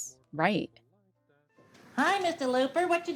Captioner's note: soundbite of tv show, "sesame street"